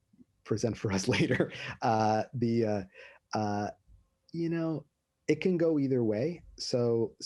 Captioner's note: laughter